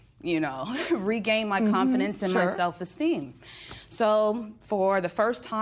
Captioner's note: chuckle